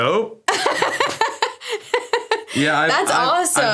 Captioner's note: laughs